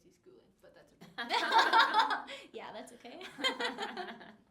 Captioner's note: laughing